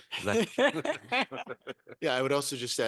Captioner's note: panelists chuckling